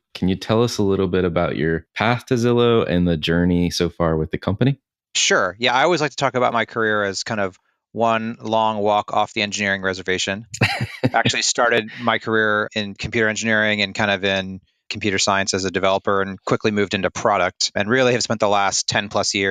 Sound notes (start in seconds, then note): 10.5 laughs